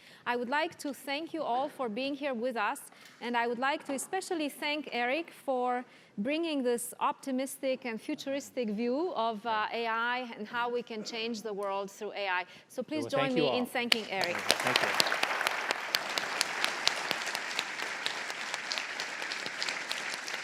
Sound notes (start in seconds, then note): 13.9 applause